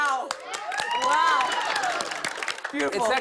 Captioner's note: cheers and applause